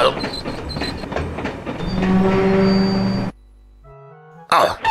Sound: train horn

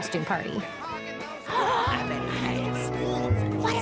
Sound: gasps

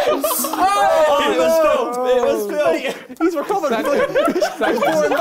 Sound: both mumbling

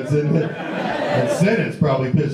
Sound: audience laughs

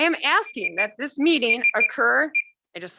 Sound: timer beeping

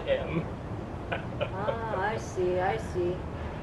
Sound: laughs

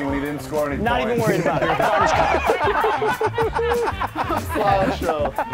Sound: laugh

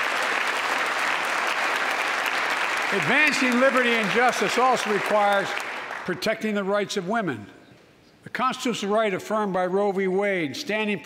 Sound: applause

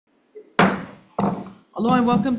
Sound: gavel bangs

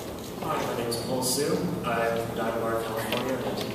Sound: background noises and talking

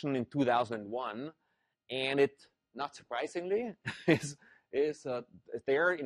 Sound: laugh

